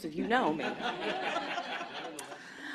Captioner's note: laughter